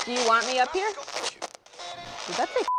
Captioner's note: spirit box voice